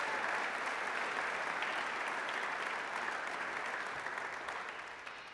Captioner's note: applause, cheering; applause